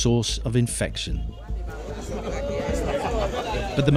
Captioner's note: chatter